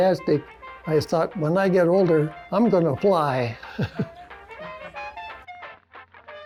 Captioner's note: chuckles